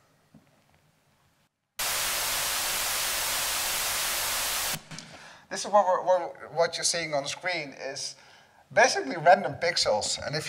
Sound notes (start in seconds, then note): 1.7 white noise buzzing